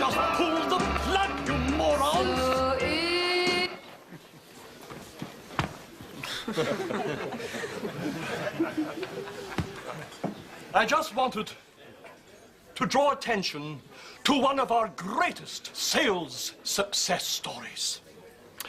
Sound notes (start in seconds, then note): 4.0 music stops; 6.1 all chuckling